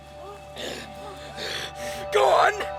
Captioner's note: gasping